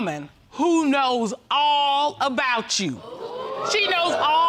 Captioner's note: audience exclaims